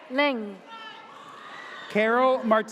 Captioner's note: audience cheers